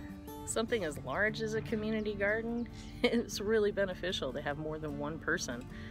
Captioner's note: chuckle